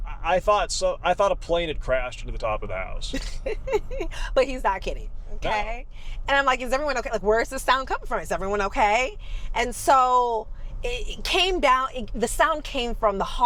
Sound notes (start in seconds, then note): 3.1 laughs